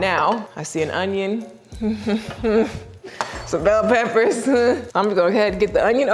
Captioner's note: laughs